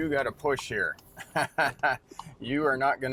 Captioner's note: chuckles